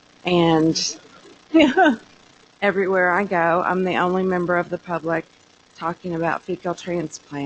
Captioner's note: laughter